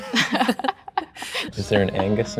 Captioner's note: laugh